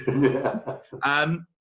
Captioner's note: laughing